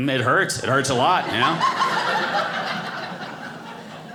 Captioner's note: audience laughing